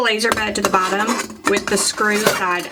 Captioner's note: bed clacking